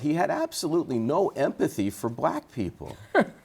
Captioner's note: laughter